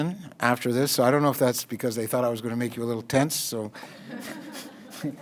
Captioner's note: audience laughter